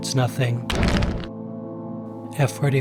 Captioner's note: stone Cracking